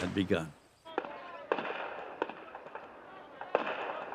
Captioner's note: gunfire